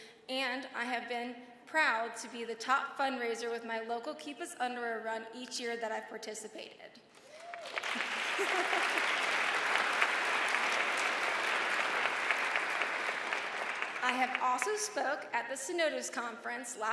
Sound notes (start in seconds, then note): 7.4 audience applauds; 7.9 laughs